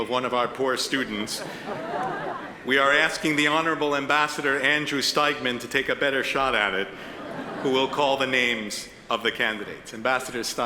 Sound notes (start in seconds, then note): 1.0 attendees laugh; 7.0 attendees chuckle